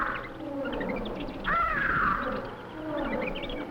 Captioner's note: jungle animals chattering; birds cawing; gorillas groaning